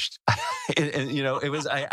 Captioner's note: laugh